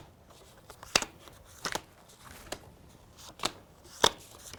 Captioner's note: cards click